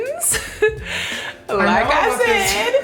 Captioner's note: laughing